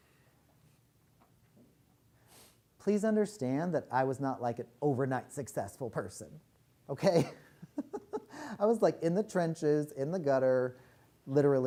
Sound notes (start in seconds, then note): 7.1 laughs